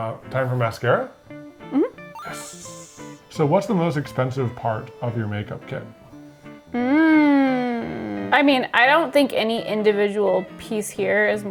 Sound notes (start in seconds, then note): 2.2 humming; 6.4 humming